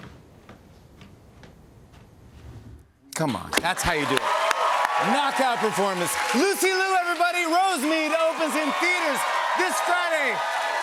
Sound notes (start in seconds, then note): 3.9 cheers and applause